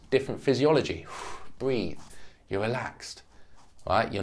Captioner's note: exhales